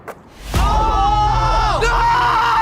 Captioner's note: guys cheering